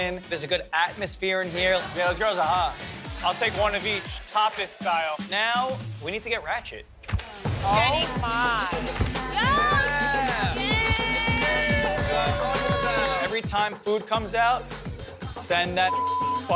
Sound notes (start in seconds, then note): 10.6 all cheer; 15.8 beep